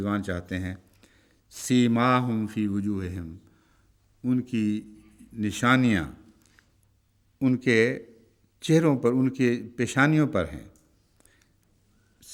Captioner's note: Arabic